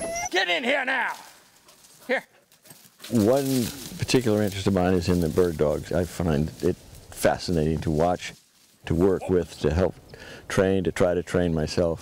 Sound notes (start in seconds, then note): 2.4 dog running through the brush